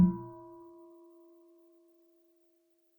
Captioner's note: half bell